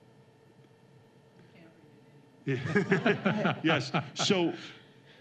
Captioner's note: laughter